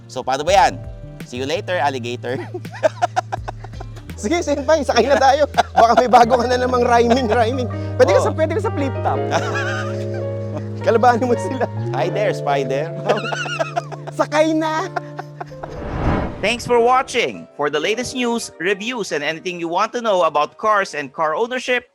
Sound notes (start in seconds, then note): 2.3 laughs; 9.2 laughs; 12.9 continues laughing